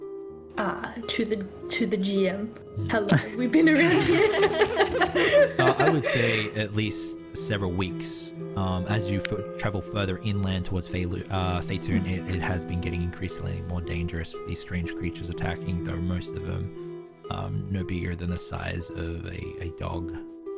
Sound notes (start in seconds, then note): 3.6 laughs; 3.6 others giggling